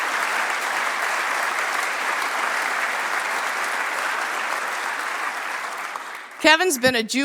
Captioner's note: applause